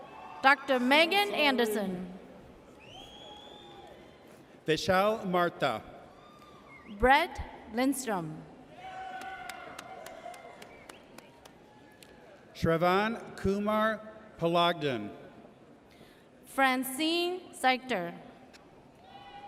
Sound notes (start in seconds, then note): 0.0 audience cheers; 3.3 audience cheers; 8.8 audience cheers